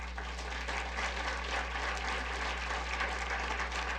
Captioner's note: audience applause